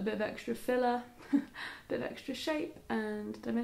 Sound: laughing

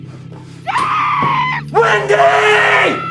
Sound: screams

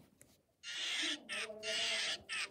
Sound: monkey Screaming

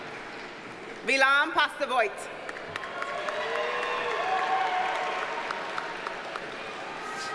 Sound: audience cheers and applauds

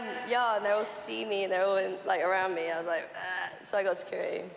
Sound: gags

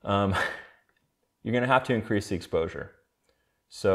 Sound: chuckles

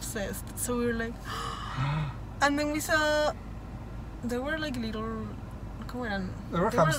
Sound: gasp

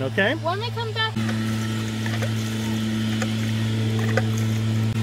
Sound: gas pouring

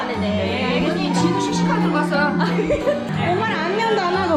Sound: haha

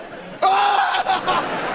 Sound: screaming

